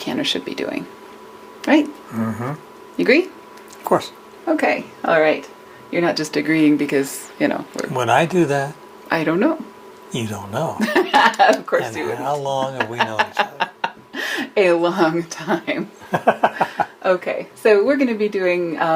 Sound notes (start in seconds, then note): 10.8 laughter; 16.0 laughter